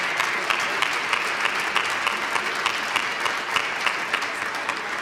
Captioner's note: applause